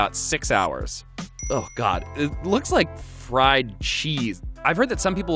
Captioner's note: dings